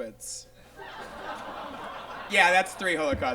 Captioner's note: audience laughs